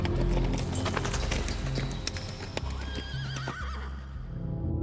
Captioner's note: animal calls and hooves